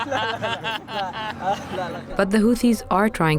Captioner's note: laughter